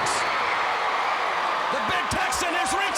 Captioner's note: crowd cheering